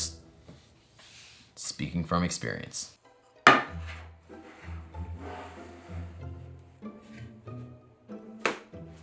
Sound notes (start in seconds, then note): 4.2 board sliding